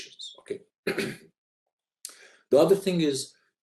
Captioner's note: clears throat